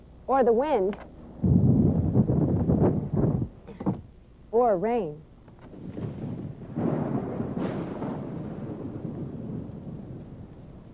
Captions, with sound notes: or the wind, (wind blows) or rain. (thunder booms)